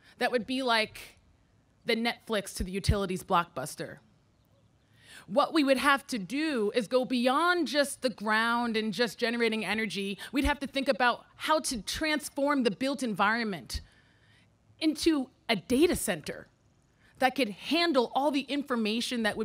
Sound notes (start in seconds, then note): none